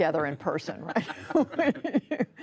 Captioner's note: laughter